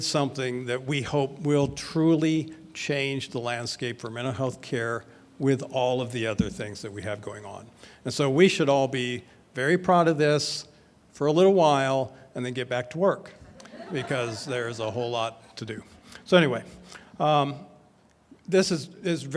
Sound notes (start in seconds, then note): 13.5 audience laughs